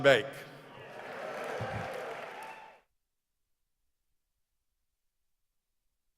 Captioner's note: members of the audience cheering